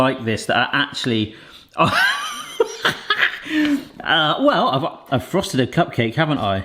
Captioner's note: laughs